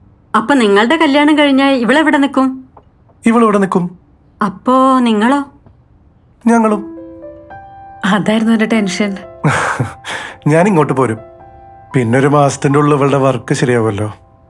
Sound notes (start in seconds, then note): 9.4 chuckles